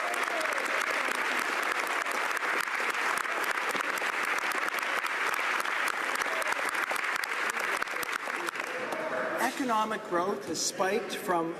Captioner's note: applause